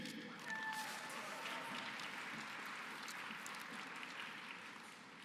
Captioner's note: applause